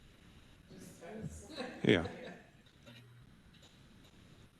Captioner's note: laugh